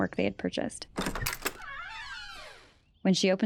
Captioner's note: door opening